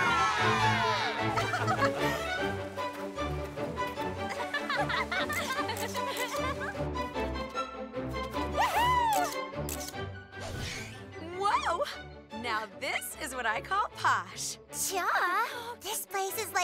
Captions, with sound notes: [ALL GIGGLE] Whoo-hoo! Whoa! Now, this is what I call posh! Yeah. This place is, like, even glitzier than Beverly Hills!